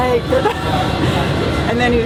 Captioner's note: laughs